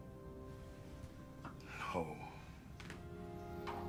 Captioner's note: sighs